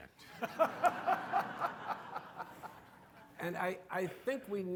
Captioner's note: audience laughing